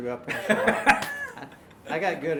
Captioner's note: laughing